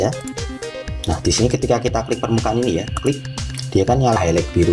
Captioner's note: click